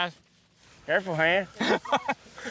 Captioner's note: laughter